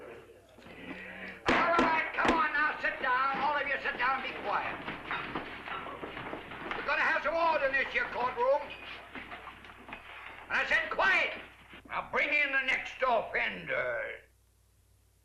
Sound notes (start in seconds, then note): 2.8 banging; 5.5 sound of bodies shuffling